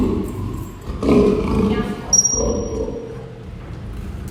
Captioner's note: lion growl; high-pitch whistle; lion growl